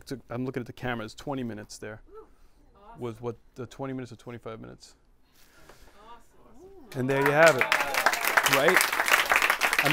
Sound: applause

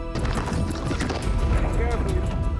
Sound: fierce wind blowing

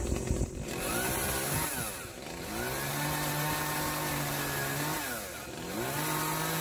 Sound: chainsaw

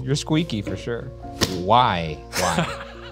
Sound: hands slap

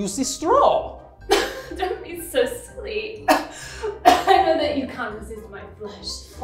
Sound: coughs

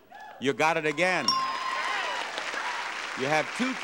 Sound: audience applauding

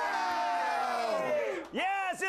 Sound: applause

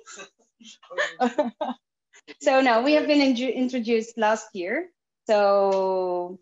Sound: chuckles

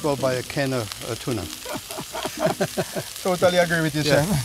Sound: both laugh

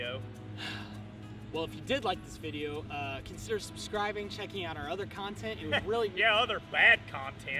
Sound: sigh

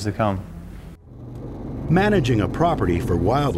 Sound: ATV engine rumbling

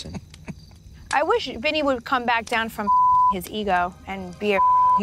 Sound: beep

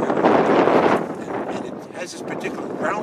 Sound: wind whistling

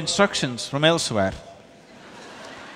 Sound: laughter/Applause

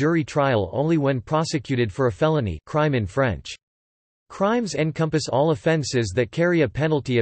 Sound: crime in French

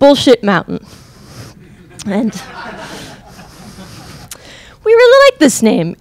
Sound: crowd laughing

